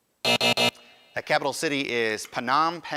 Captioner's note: buzzer